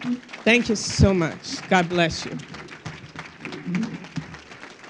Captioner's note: crowd applauding